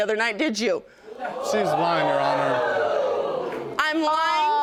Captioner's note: audience exclaiming